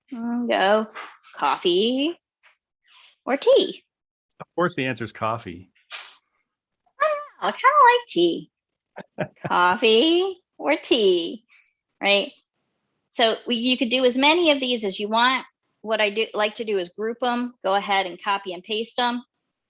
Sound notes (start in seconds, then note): 9.0 laughing